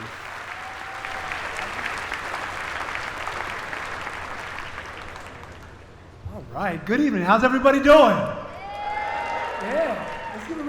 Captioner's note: applause